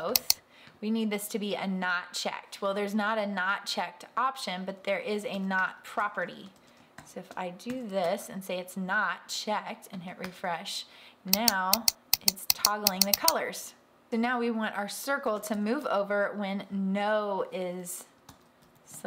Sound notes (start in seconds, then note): 11.3 clicking